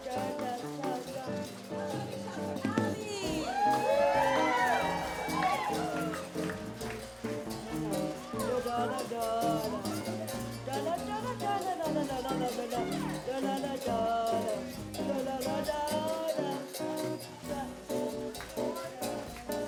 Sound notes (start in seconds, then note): 3.2 cheering; 6.6 samba music